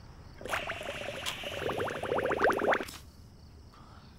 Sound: pipe bubbles

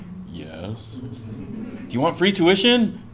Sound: laugh

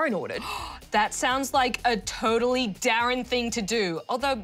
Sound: gasps

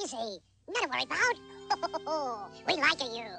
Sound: chuckles

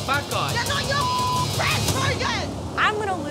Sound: beep

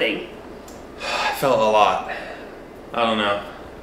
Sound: sighs

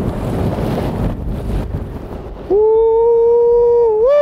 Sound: wind blowing

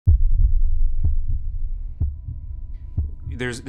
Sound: heart thumping; gentle music

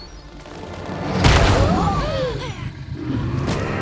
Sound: gasping

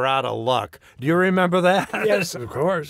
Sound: laughs

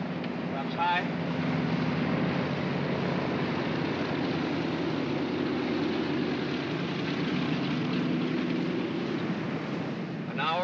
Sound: aircraft rumbles

